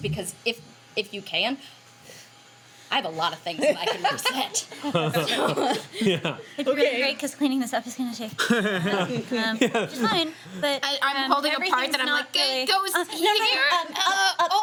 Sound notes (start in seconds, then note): 3.6 laughing